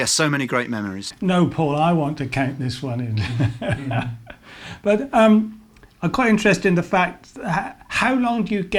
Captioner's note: laughs